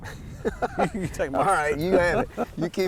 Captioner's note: both chuckling